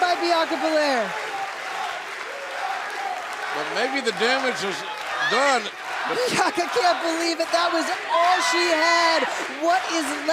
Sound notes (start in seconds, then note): 4.9 fans chanting